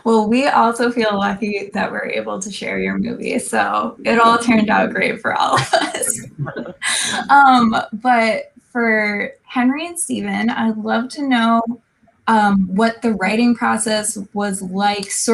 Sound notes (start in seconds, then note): 5.5 laughing